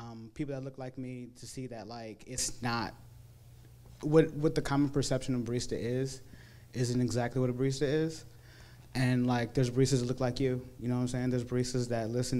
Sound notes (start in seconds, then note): none